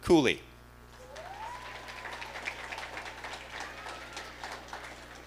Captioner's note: audience applauding